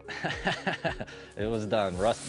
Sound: laughing

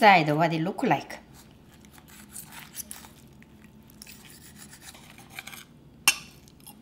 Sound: scraping

